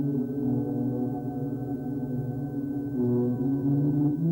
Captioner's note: humming